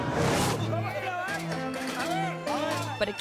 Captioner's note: performers speaking in foreign language